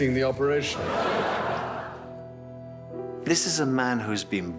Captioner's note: crowd laughing